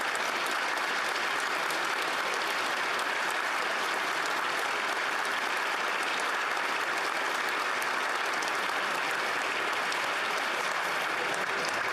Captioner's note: applause